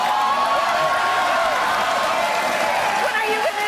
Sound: audience cheers

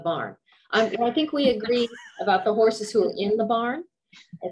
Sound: laughter

